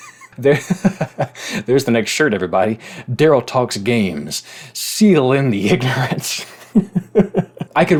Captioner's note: laughing